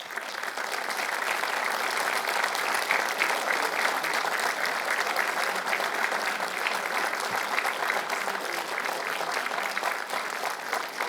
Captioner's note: applause